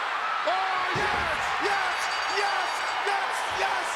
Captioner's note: bell rings